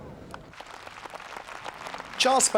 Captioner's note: crowd applauding